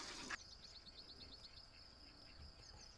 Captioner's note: crickets